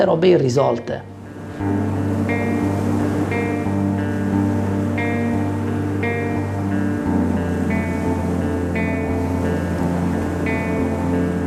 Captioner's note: sound of waves